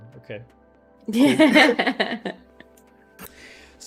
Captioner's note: laughs